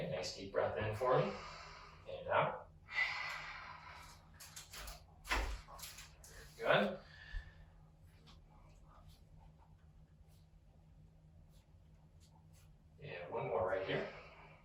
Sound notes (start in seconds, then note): 1.2 breathes in; 2.9 breathes out